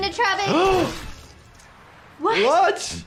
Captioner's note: gasps